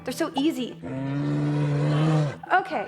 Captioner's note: roar